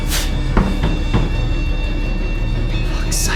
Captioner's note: knocking at door